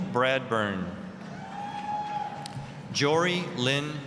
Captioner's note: applause, cheering